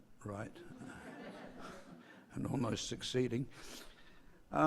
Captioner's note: laugh